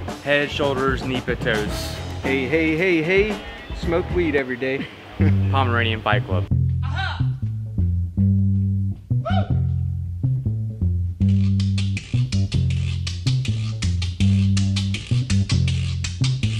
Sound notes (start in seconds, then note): 6.9 voiceover